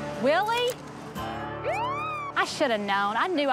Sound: siren wails

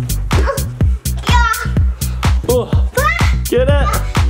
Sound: energetic music; children grunting

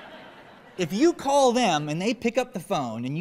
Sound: laughter

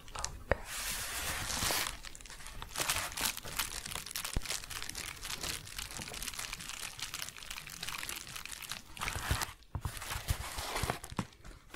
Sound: crinkling

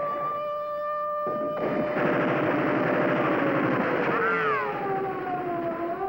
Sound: machine gun fire

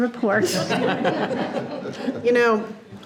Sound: board members laugh

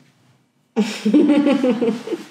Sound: he he

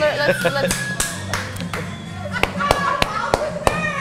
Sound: clapping

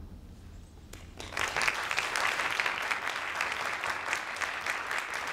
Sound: audience claps

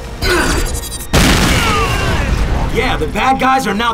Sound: explosion

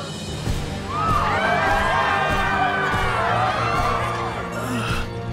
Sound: screaming; grunting

